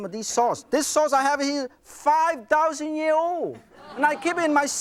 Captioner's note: crowd laughs